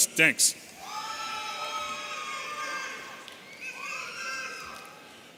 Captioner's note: audience cheering